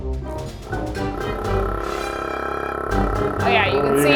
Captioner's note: funky music; nail polish vibrating